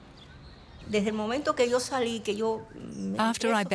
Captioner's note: speaking in Spanish